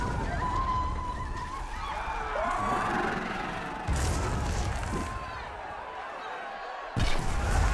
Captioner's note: crowd screaming; meleys snarling